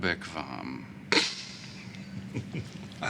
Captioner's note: chuckles